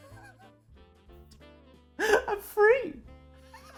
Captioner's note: laughing